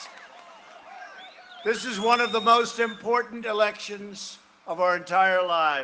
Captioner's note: cheering and applause